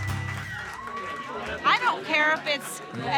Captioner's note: applause and cheering